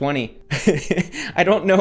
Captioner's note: laughs